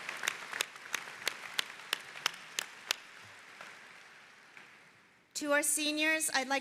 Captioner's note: applause